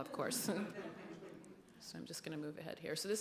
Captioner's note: laughter